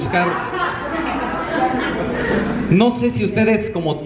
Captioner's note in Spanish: risas